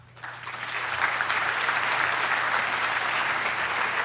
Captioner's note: applause